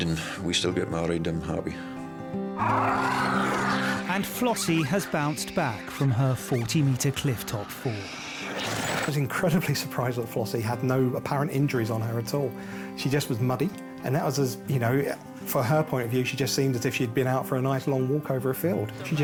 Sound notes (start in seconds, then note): 2.4 gentle music; 2.5 Flossie growling